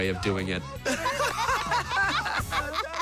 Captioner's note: laughter